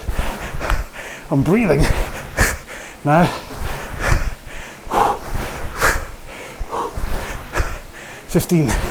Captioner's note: breathes heavily